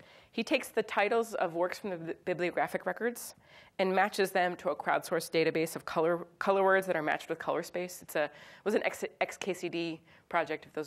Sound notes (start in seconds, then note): none